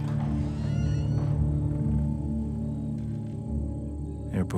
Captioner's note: door creaking; insects chirping